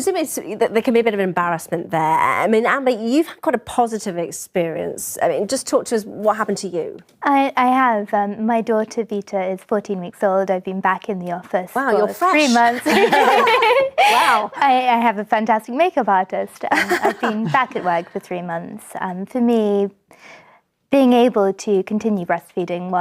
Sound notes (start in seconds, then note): 12.4 ladies laughing